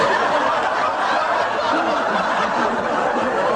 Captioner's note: laughter